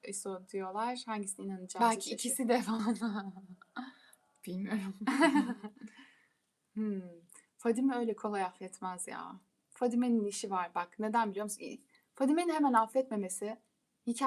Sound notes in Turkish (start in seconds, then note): 5.0 kahkaha